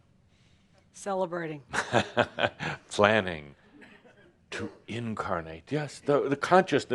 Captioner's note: chuckling